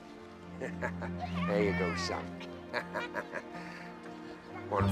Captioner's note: laughing